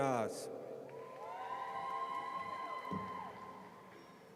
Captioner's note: audience cheers